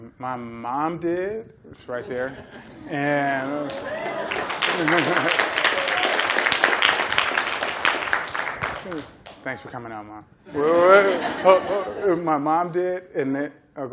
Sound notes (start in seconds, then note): 3.6 applause; 10.5 laughter